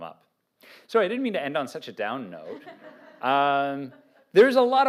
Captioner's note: laughter